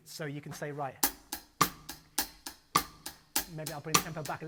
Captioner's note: drumsticks clacking